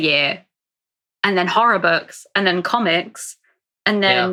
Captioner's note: whispering